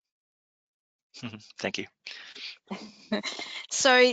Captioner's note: laughs